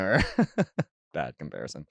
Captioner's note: chuckles